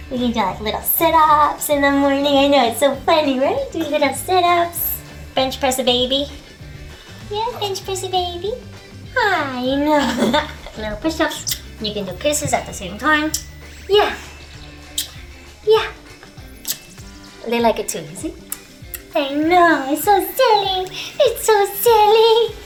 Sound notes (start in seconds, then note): 14.0 smooch